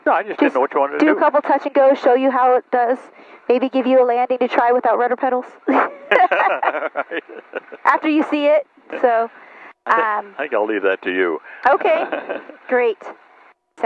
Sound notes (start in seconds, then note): 5.7 both laughing